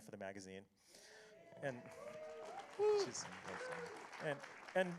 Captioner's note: applause